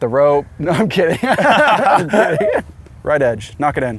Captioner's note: laughs